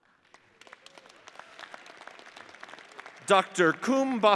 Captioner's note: audience applauds